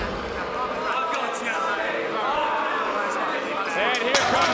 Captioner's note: crowd boos; wrestlers chatter